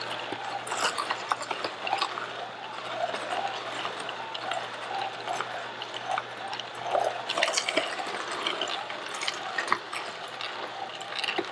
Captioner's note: juicer sounds